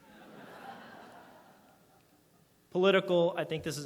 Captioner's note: audience laughs